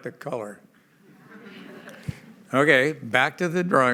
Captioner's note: laughter